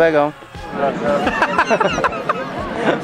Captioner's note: laughter